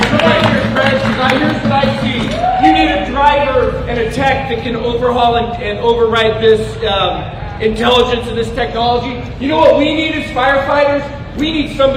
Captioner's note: applause